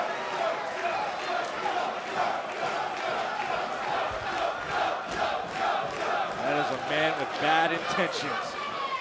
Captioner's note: crowd cheering